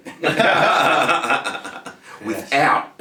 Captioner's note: both laughing